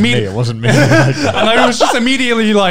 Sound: all laughing

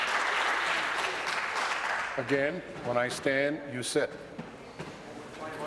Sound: applause

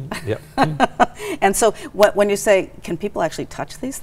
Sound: laughing

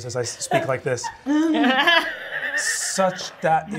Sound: laughing

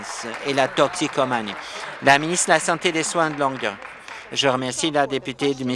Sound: applause

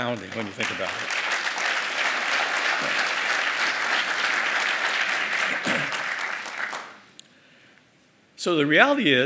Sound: applause

